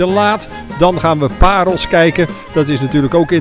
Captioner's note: voiceover